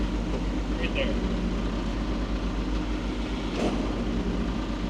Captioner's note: telehandler whirring